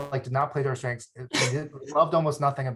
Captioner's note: laughs